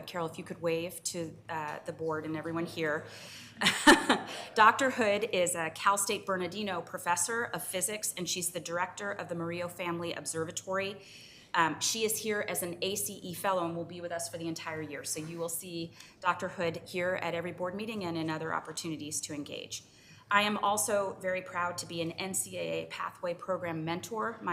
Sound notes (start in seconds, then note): 3.6 laughs